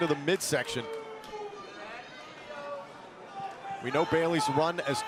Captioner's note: crowd cheering